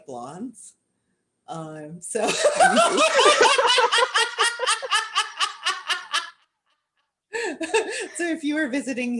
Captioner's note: laughter